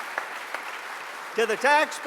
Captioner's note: applause